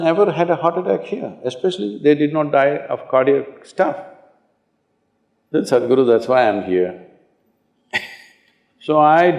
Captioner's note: laughs